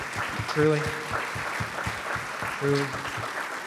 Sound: applause

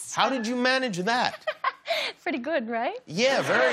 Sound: laughs

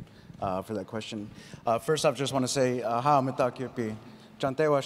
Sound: speaks in foreign language

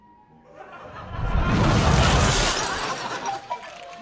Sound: laugh track

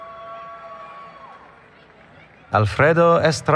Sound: cheering

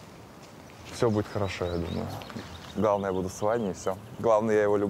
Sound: speaking in foreign language

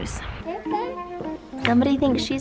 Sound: groovy music; babbles

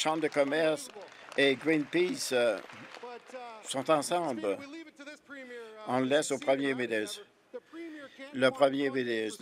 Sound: applause

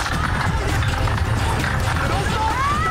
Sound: urgent music; water splashing

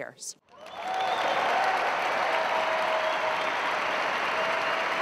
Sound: applause and cheering

